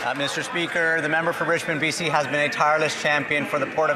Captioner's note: applause